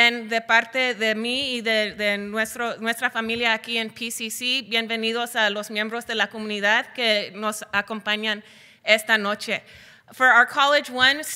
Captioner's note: foreign Language Spoken